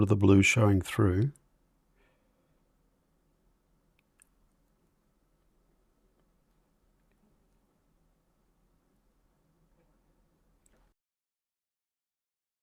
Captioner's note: silence